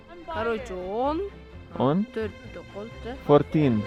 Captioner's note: speaking in Kyrgyz